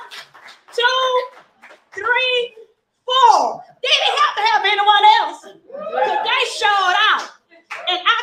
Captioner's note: applause